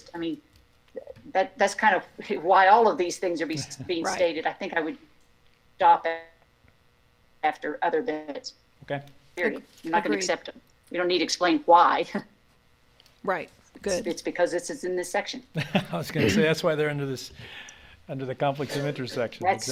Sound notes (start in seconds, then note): 15.5 laughs